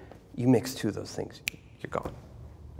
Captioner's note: snaps fingers